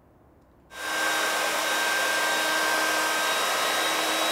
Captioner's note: tool whirring